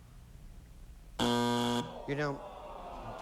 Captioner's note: buzzer